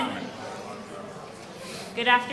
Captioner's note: audience chatters